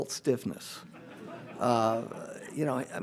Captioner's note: audience laughs